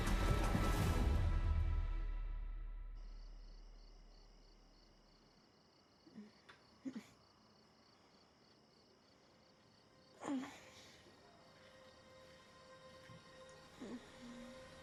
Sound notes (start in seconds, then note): 3.0 crickets chirping; 10.1 Maria moans; 12.1 soft music